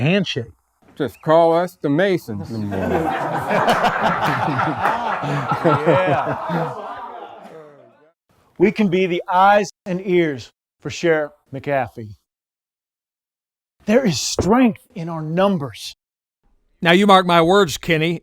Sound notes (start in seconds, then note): 4.5 men laugh